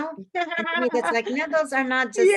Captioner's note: laughs